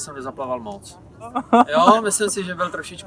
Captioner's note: laugh